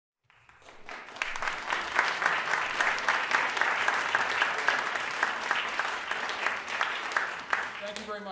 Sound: applause

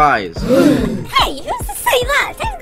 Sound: group gasp

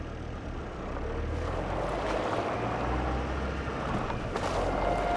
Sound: tires crunching; building orchestral music

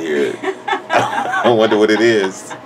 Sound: laughs

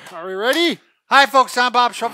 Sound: claps

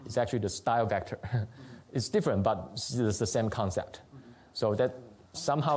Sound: chuckles

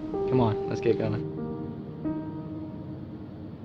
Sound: none

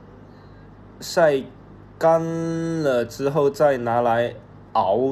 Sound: Cantonese

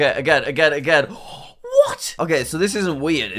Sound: gasps

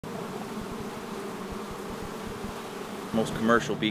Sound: bees buzzing

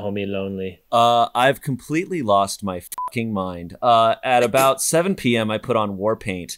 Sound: beep

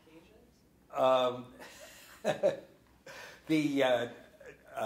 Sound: laughs

